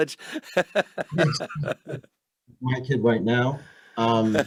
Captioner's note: laughs